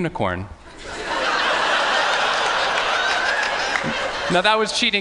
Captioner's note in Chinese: 笑聲